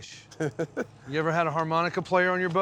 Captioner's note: chuckles